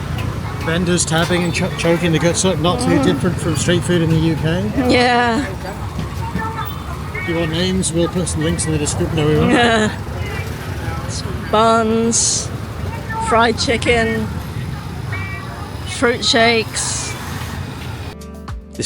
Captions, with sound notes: Vendors smoking and choking their guts up. Not too different from street food in the UK. If you want names, we'll put some in the description... no we won't. (laughs) Buns, fried chicken, fruit shakes.